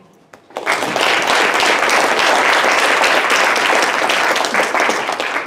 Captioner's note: audience applauding